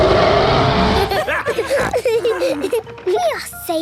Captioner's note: roaring; snorting; laughter